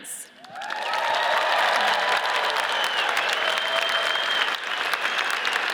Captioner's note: audience cheers and applauds